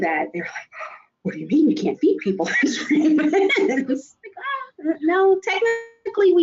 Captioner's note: laughs